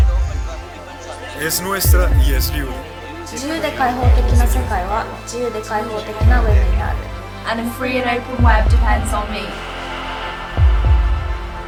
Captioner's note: voices speaking in multiple languages